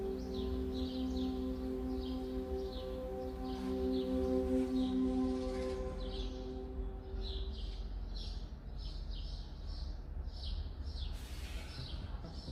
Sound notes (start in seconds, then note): 7.3 birds chirping